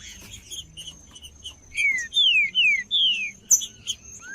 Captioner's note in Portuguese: trinca ferro cantando